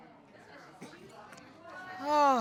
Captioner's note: audience murmuring